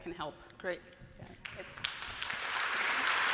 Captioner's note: applause